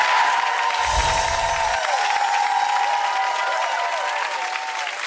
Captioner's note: applause and cheering